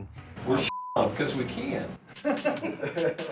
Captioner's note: beep; instructors laughing